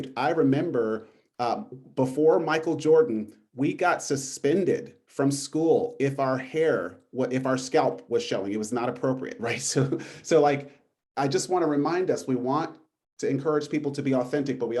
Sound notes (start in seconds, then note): 9.6 laughter